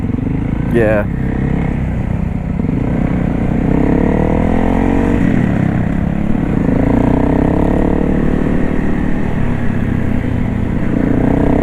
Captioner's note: revs back up a little